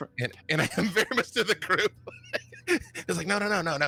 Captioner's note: laughs